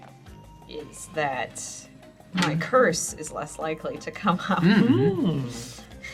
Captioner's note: laughs